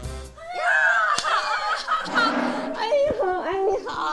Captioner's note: group cheering; speaking foreign language